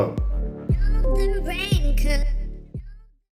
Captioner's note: call ends